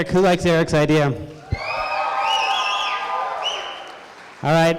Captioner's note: crowd cheering